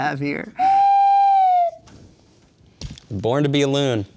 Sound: slide whistle

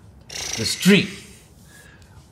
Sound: RJ exhales

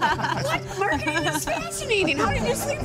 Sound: laughter

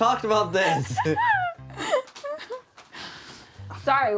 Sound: both laugh

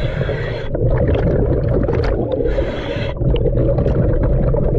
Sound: breathing deeply

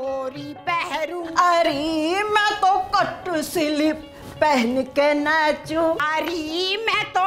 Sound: sing-song

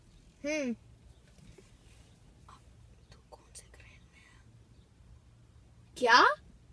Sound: whispering

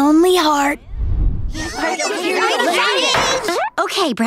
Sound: chattering

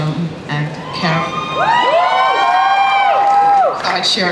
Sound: audience cheers

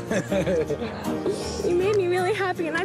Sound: giggles

